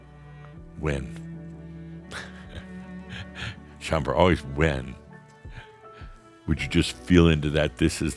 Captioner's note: Adamus chuckles